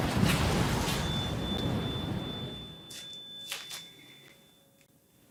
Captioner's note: mystical sound effects